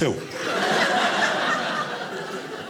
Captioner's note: audience laughing